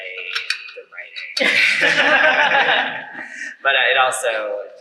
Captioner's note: laughter